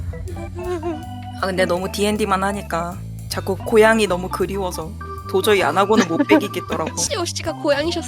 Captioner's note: laugh